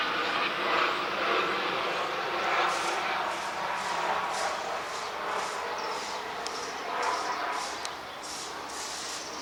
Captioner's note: airplane sounds